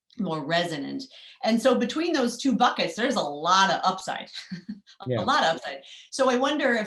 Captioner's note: laugh